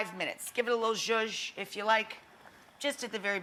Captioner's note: stirring sound